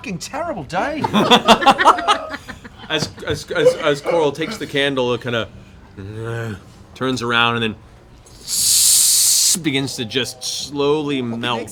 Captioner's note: groans